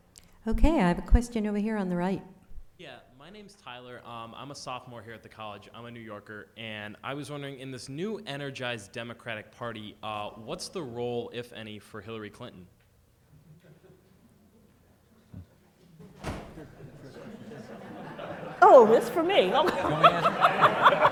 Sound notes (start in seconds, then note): 16.5 crowd laughs; 20.1 laughs